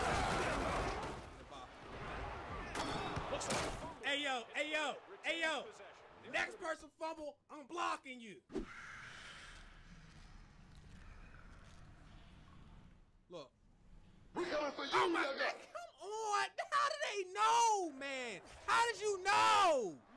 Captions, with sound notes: (yelling and crashing) Hey yo hey yo hey yo! Next person fumble I'm blocking you! (screeching) - Nah. - We comin' for you nigga! - Oh my man come on! How do they know man! How did you know?